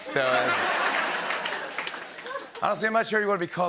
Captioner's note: laughter